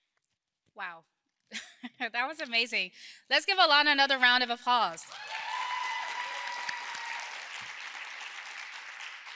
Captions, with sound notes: - Wow, (laughs) that was amazing. Let's give Alanna another round of applause. (audience cheering)